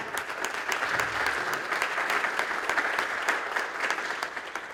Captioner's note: applause